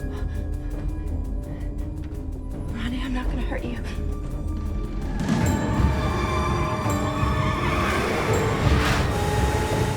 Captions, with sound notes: (suspenseful music) Ronnie, I'm not gonna hurt you. (car tires screeching)